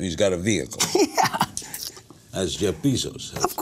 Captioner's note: laughs